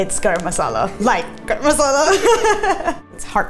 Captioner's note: laughs